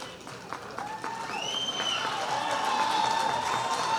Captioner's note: cheers and applause